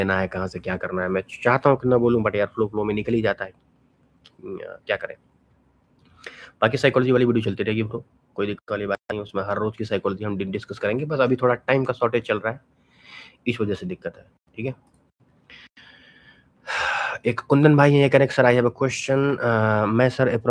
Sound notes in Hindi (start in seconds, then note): 15.5 गहरी सांस लेने की आवाज़